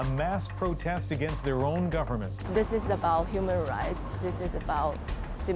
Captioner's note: speaking foreign language